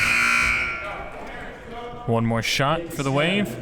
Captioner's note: buzzer blares